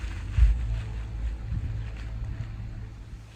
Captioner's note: sand gently crushing